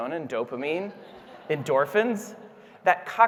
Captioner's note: audience laughing